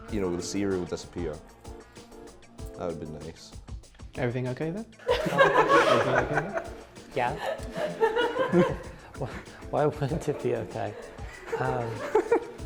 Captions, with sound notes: ..you know, the cereal disappear, that would be nice. Everything okay there? Wha? (laughter) Everything okay there? Yeah. (laughter) Why wouldn't it be okay? Um...